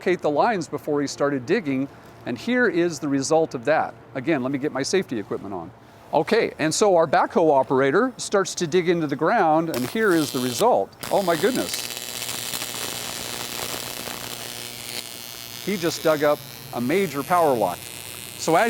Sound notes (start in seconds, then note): 10.5 electricity crackles